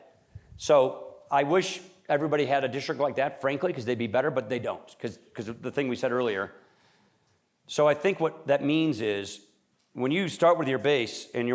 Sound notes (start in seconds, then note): none